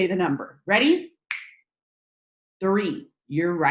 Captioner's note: snaps fingers